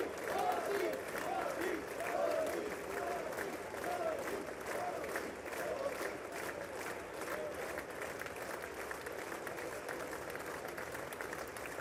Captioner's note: cheers and applause